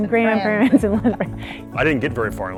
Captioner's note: chuckling